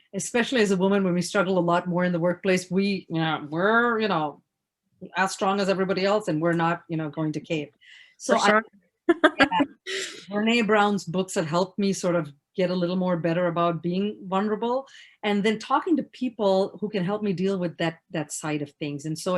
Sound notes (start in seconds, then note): 9.1 laughs; 9.2 mumbles